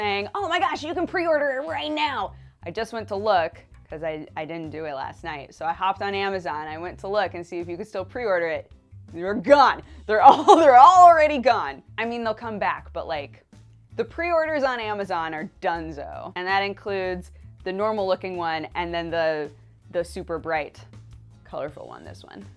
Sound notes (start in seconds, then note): 10.2 laughs